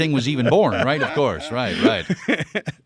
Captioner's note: laughing